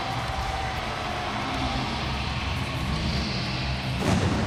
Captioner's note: crowd cheering